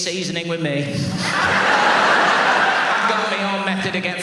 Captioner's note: audience laughs